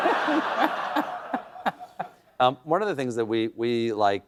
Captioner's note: laughter